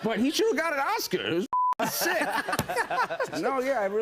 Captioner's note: laughter